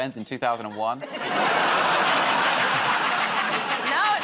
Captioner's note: laughter